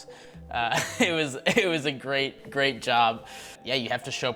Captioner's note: laughing